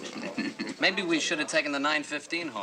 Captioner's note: chuckles